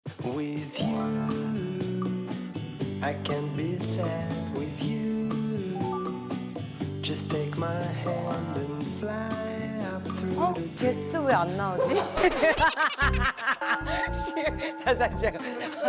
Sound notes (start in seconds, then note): 11.7 phaHAhaHAHahahAhaha